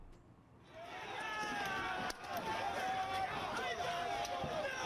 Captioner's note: crowd shouting